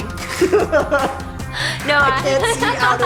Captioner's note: laughter